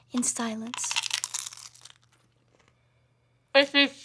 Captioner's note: chip crunching